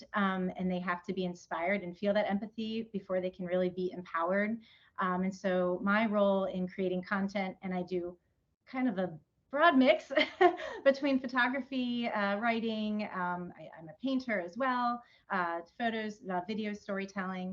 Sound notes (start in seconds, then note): 10.1 laughs